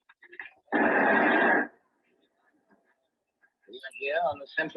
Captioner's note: static noise